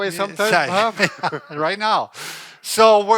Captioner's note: laughs